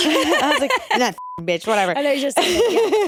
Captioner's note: beep